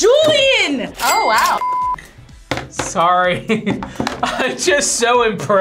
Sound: laughs

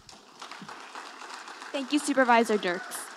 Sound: audience applauding

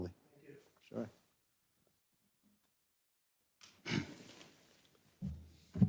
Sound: cough

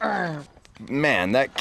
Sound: groans

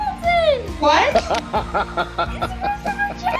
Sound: Christopher laughs

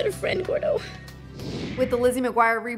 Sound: whoosh

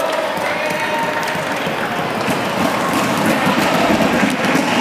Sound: applause

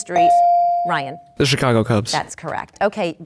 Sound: dinging

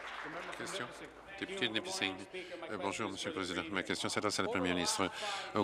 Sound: applause

